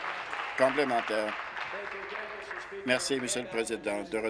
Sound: applause

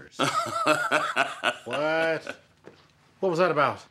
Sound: Gates laughs

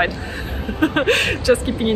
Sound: laughs

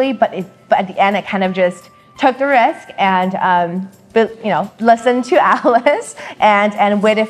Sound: giggles

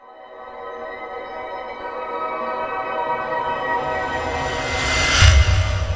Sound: tones chime and intensify

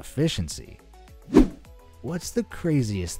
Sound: air whooshing

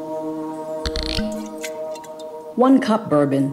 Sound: ominous music; cork clicking; liquid swishing

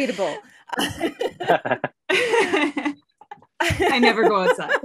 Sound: all laugh

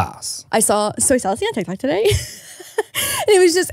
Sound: laughs

